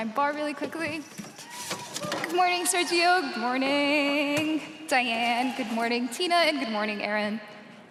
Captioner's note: cheers and applause